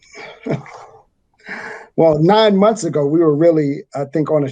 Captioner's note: chuckles